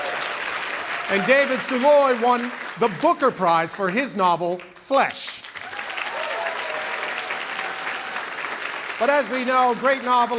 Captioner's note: cheering and Applause